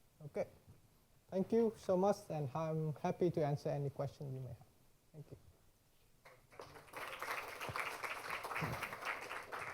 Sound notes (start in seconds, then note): 6.2 applause